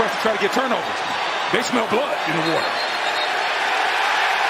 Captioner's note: cheers and applause